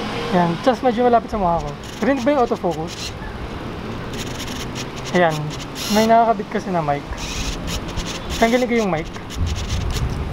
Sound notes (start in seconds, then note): 3.7 autofocus motor sound; 7.2 autofocus motor sound